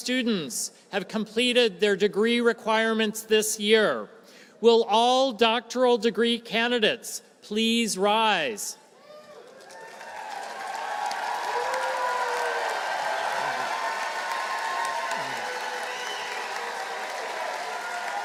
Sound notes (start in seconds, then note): 8.9 applause; 11.8 cheering; 16.6 applause